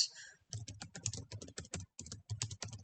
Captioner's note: typing